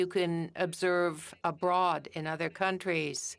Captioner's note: speaking FRENCH